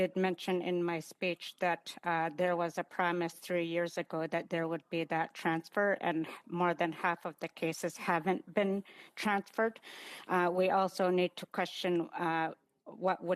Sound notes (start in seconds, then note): 2.9 speaking Indigenous Language